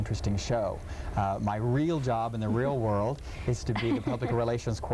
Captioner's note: laughing